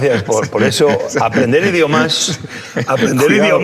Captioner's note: laughing